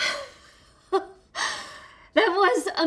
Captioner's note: Jenny laughs